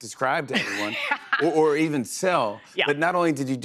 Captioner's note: laughs